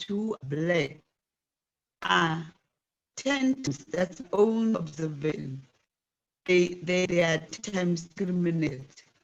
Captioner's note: distorted audio